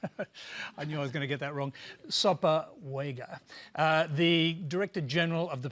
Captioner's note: chuckles